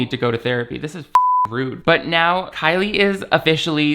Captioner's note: beep